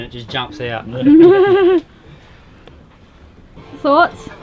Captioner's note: laughs